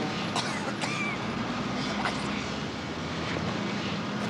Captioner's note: coughs